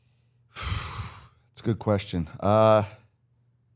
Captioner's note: exhales